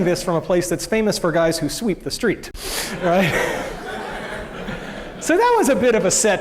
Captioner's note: laughter